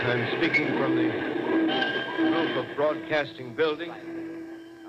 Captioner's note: bells ringing over city gradually diminishing